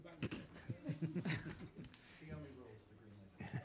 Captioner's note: laughing